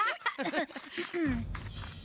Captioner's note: Gwen and Courtney Laughing; Courtney Clears Throat